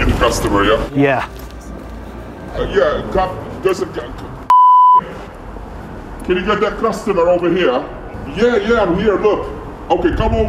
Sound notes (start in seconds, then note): 4.5 beep